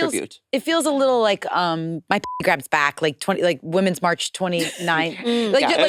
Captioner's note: beep